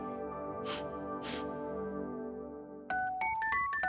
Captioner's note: sniffs